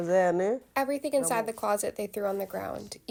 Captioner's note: through translator